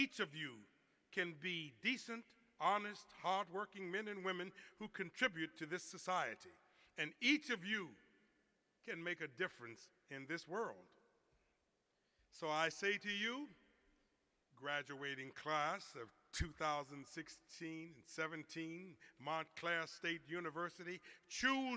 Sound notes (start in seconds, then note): none